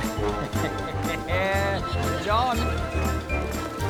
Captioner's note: laughs